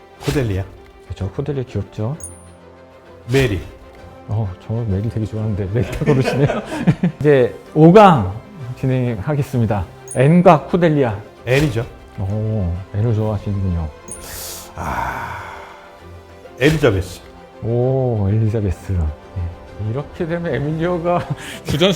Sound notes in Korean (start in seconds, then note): 5.7 웃음; 14.2 한숨; 21.1 웃음